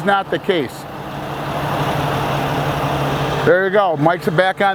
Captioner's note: engine revving